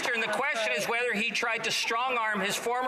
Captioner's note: some Laughter